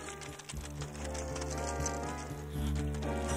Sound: metal clinking

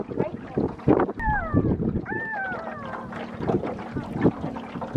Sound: bird noises

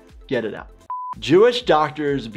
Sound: buzzer beeps

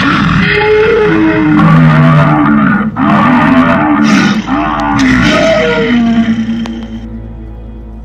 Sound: Nasutoceratops sounds

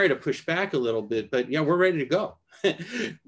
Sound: laughter

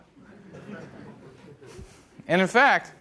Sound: audience laughing

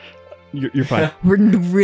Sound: chuckles

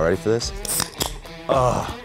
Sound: can opening

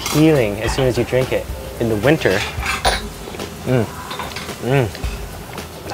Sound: slurps

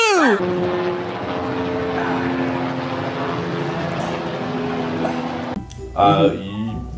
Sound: helicopter flies

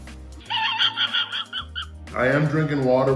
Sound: laughing

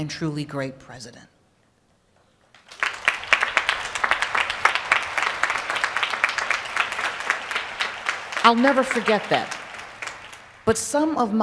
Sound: applause

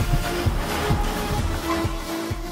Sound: vehicle Screeching

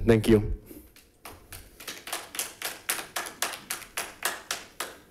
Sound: audience applauding

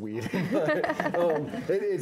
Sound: laughing

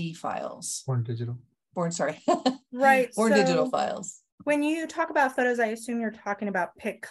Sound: laughs

